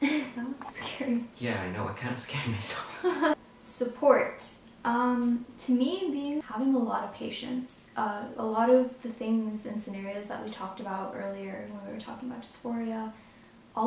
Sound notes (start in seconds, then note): 3.4 laughs